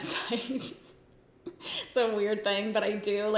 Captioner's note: laughs